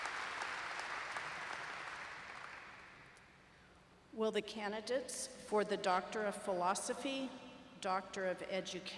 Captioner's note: applause